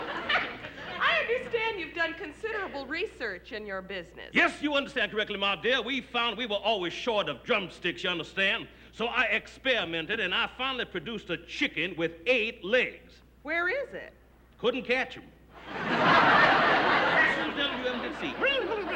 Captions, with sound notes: I understand you've done considerable research in your business. Yes you understand correctly, my dear. We found we were always short of drumsticks, you understand? So I experimented and I finally produced a chicken with eight legs. Where is it? Couldn't catch him. (laughter) Fastest little devil you ever did see.